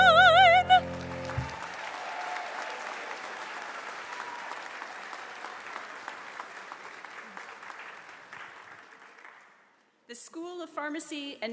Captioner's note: cheers and applause